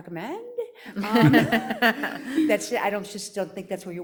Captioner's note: audience laughs